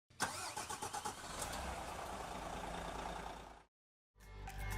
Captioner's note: engine turning over